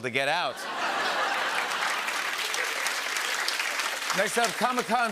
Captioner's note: laughter